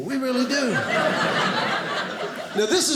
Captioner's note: audience laughing